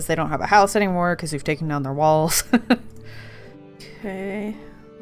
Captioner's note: laughs